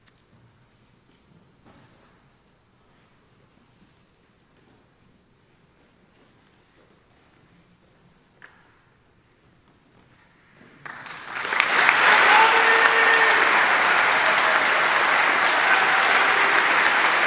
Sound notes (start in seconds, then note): 10.8 audience applauding; 11.0 audience cheering